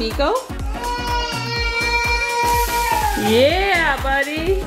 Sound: exclaiming

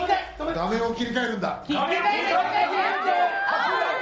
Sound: various screams

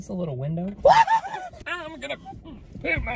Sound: screaming

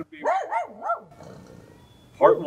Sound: dog barking

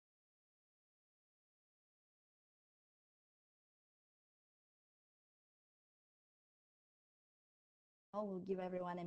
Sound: silence

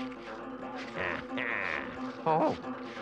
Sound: Henchman Weasel cackles

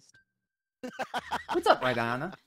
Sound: laughing

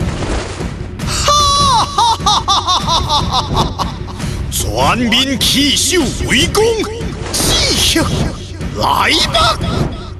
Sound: laugh

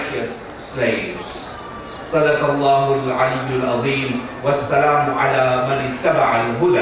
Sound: speaking in foreign language

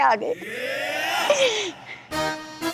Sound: breathing heavily

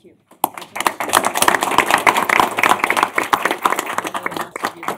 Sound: applause

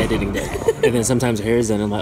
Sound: laughing

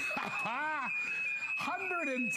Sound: laughter

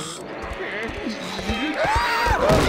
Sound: groaning; screaming

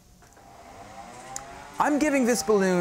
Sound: generator whirring

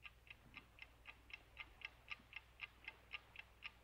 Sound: clock ticking

